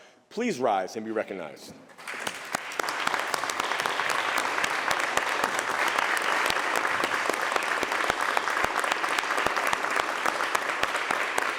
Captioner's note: applause